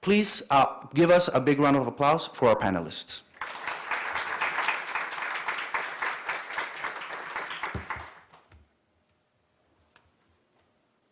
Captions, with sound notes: Please give us a big round of applause for our panelists. (applause)